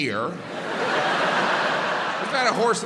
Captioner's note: crowd laughs